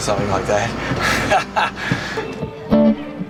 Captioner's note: laughs